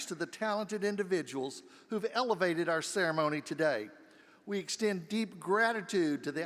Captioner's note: none